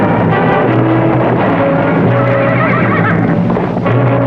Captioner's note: horse whinnying